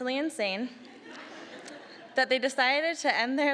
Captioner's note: audience laughing